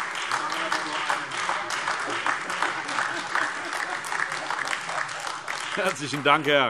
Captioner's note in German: Beifall